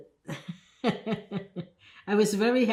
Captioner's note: laughing